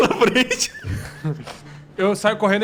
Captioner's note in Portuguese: risos